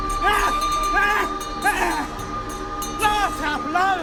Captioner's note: bell jingling; dramatic music